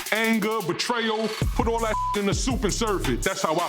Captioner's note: beep